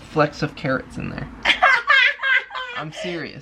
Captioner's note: laughter